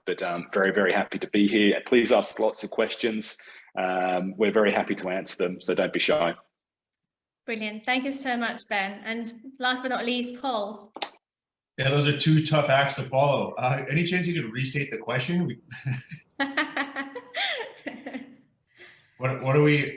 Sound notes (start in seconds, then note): 16.3 laughs